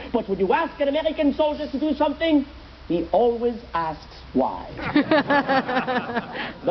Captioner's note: audience laughs